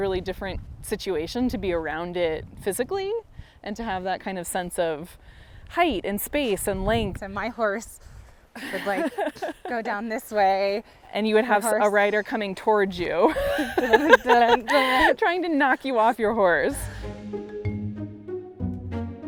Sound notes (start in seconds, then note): 8.6 chuckles; 13.2 laughter